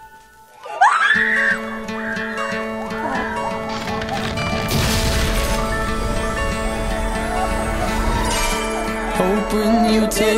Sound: screaming

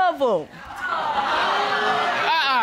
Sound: audience boos

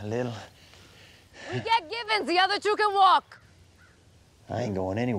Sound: shouting

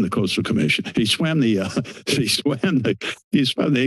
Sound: chuckles

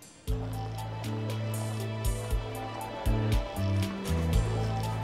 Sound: students talking

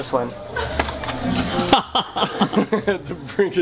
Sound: laughter

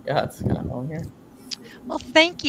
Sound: faintly speaking

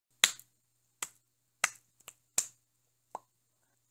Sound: clap clap snap clap pop

